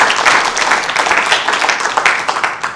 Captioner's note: applause